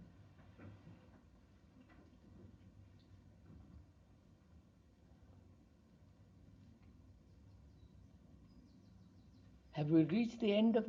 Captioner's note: long pause